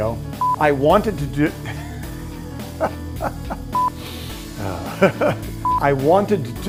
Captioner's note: laughing